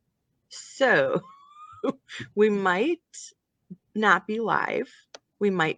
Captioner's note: laughing